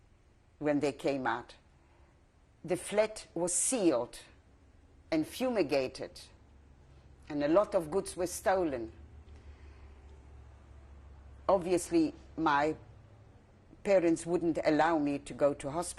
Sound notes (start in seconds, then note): 8.3 pauses for 3 seconds